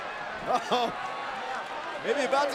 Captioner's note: chuckles